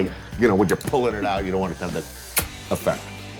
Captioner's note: smacks lips